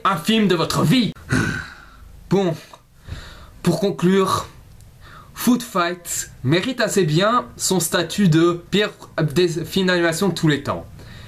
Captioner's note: sigh